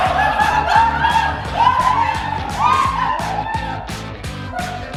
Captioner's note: everyone laughing